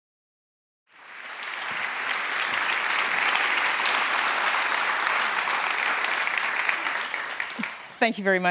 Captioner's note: applause